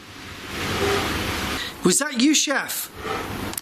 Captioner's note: squeaking